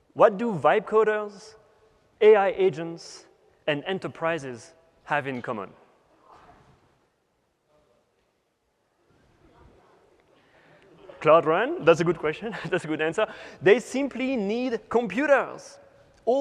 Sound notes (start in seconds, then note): 8.5 chatter